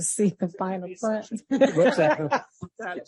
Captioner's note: laughs